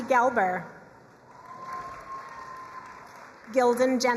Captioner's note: crowd cheering and applauding